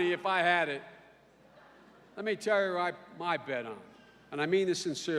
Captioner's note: none